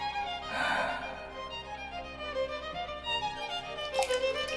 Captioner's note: sighing